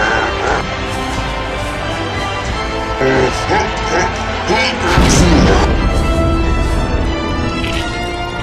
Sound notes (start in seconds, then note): 5.1 thud